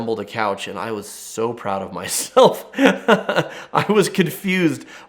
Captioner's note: laughs